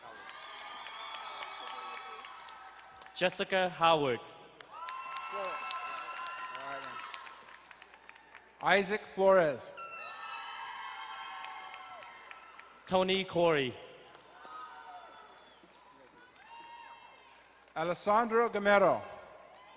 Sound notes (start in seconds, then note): 0.0 crowd cheering and applauding; 9.7 horn blaring, crowd cheering